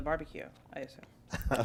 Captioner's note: laughter